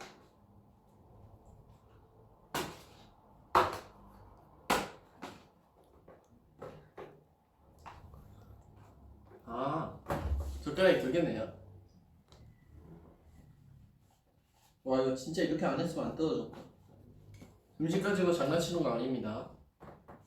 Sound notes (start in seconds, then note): 2.4 slaps